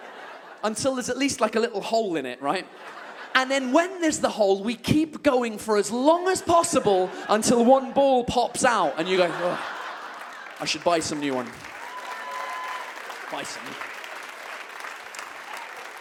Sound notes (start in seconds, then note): 11.9 audience claps and cheers